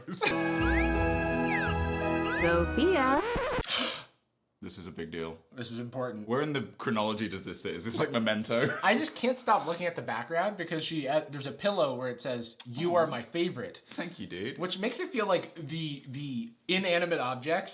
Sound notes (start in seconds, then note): 0.2 funky music; 3.3 surprised sound